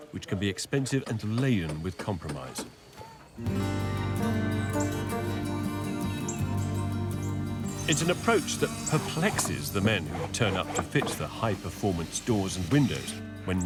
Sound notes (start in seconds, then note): 3.1 upbeat music; 7.7 machine whirring